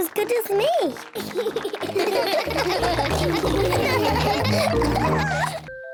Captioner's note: all laugh